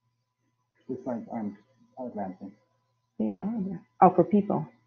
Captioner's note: man muttering